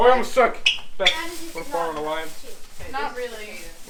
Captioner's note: kids discuss who will win